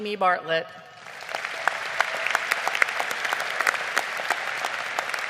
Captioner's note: audience applauding